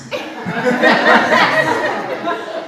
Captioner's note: audience laughs